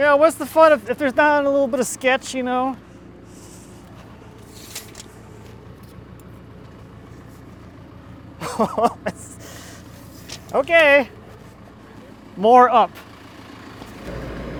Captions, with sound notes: Yeah, what's the fun if there's not a little bit of sketch, you know? Oh, that's (laughs) okay, more up.